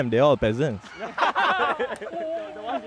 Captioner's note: everybody laughs